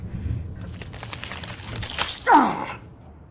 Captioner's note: Janus grunts; flesh tears; Janus grunts